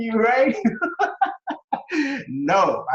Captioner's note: laughs